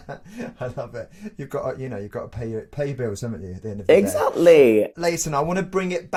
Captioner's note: laughs